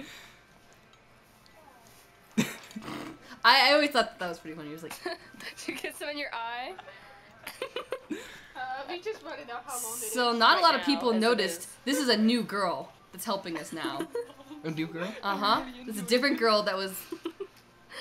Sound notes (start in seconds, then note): 2.4 snorts